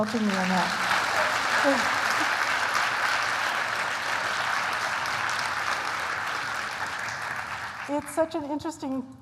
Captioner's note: applause